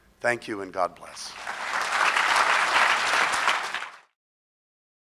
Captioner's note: crowd applause